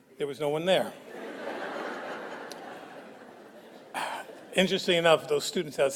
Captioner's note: audience laughs